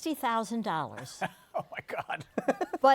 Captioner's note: laughing